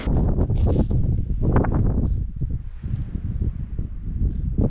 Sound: wind rustling

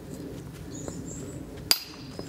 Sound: birds chirping

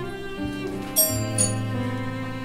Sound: doorbell

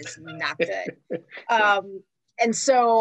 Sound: laughs

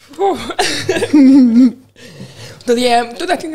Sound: laughs; chuckles

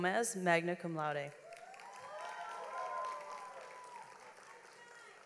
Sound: audience applauds

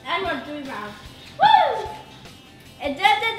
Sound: cheers

